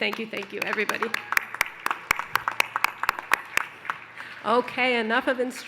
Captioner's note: applause